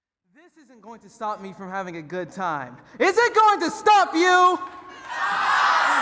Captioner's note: applause